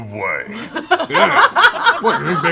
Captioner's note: laughter